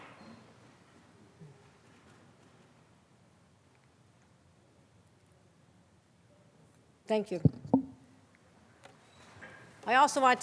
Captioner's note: moment of silence